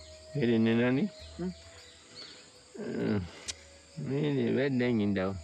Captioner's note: speaking in foreign language